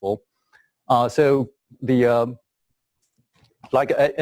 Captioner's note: pause